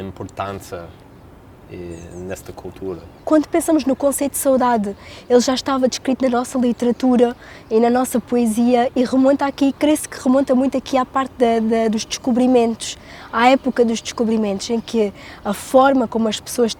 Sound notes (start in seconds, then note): 3.4 speaking in Portuguese